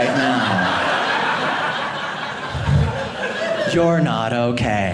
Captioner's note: audience laughing